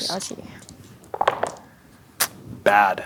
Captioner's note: dice rolling